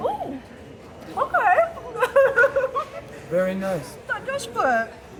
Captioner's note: laughing